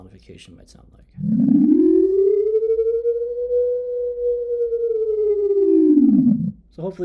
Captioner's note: sound more slowly ascending and descending